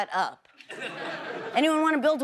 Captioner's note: audience laughs